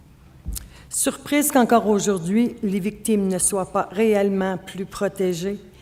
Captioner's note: speaking French